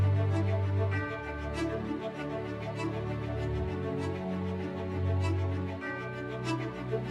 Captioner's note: bells tolling